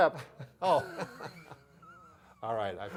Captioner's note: laughing